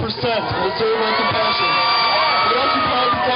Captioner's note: cheering